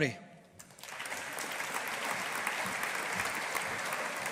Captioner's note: audience applauding